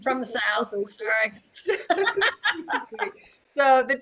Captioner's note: laughing